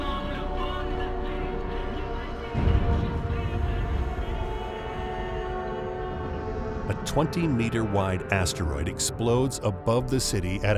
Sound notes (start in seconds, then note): 2.5 explosion booming